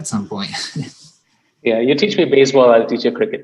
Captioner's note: laugh